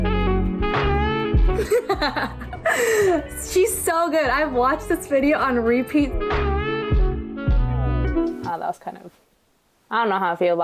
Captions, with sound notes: - (laughs) She's so good. I've watched this video on repeat. - That was kind of... I don't know how I feel